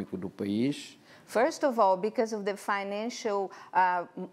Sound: none

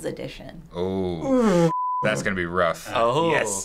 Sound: groaning

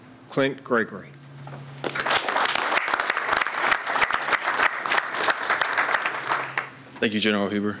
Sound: applause

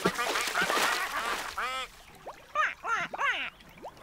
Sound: splash!; quacking

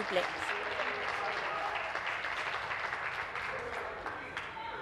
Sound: some Applause

